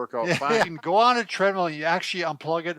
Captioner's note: laughter